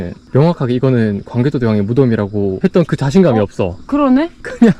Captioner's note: haha